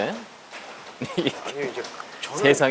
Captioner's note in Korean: 웃음